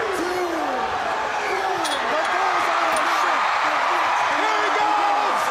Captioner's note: crowd cheering